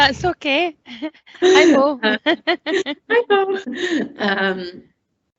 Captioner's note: laughter